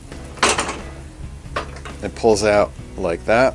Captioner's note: metal clangs